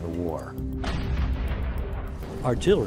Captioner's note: cannon fire